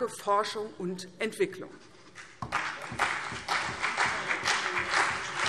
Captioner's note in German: Beifall CDU und BÜNDNIS 90/DIE GRÜNEN